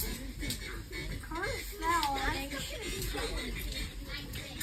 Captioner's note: kids dancing and talking